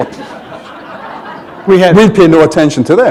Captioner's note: laughter